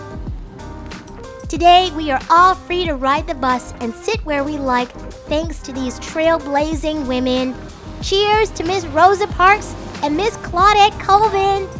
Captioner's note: traffic ambiance fades